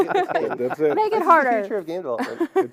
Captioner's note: laughter